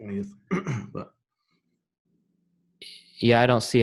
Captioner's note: clears throat